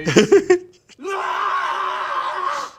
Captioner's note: laughs; screams